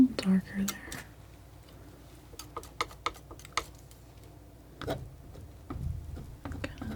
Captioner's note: scratching